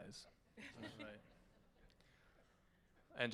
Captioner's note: laughing